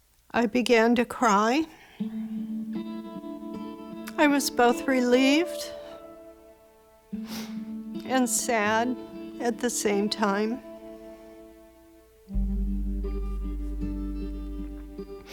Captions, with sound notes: I began to cry. [somber music playing] I was both relieved... [sniffles] ...and sad at the same time.